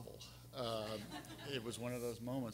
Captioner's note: everyone laughing